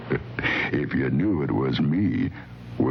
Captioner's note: chuckling